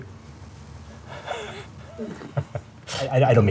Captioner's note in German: kichert